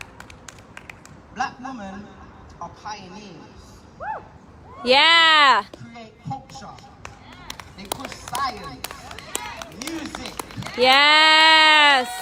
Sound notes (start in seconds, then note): 4.0 whooping; 8.8 applause